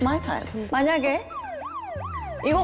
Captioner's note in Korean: 이때 울리는 time over 알람